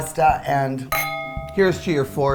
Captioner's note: clinking